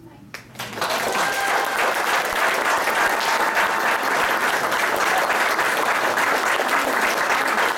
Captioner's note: clapping